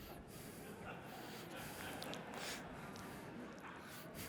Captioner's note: audience laughing